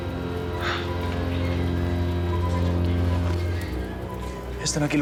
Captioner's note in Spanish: sollozos